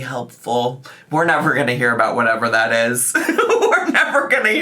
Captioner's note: laughs